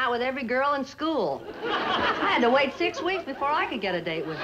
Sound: audience laughs

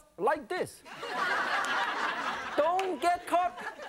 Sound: laughing

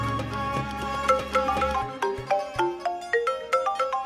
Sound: phone ringing

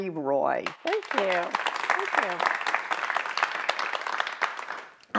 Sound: applause

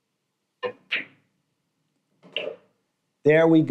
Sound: balls clanging

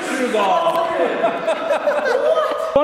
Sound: laughing

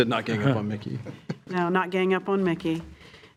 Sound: trustees chuckling

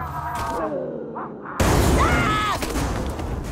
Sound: thudding

